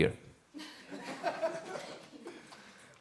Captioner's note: audience laughs